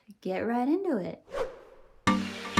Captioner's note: swoosh